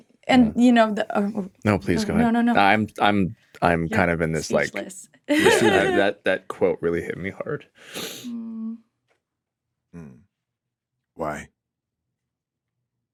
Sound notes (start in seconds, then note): 5.3 laughing